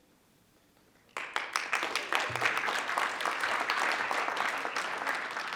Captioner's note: group applauds